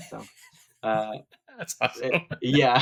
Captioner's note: laughing